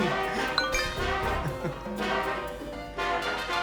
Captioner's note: phone beeping